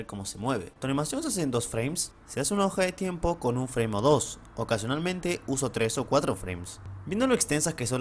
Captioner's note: reading the same thing is Spanish